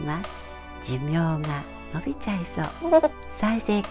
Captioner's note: laugh